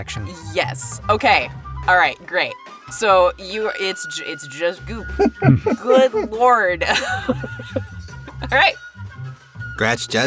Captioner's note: chuckles